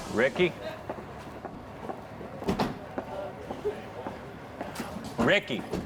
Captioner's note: footsteps